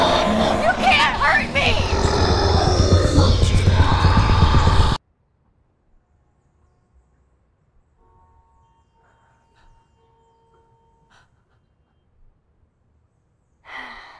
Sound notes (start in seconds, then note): 5.0 ambient city sounds